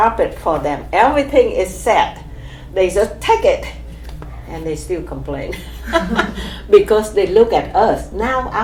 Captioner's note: laughs